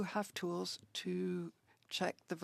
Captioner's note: speaking French